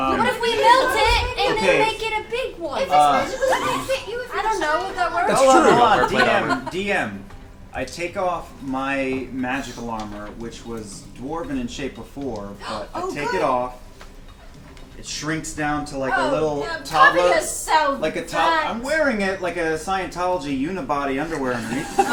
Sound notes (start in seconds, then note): 12.7 gasps; 21.5 all laugh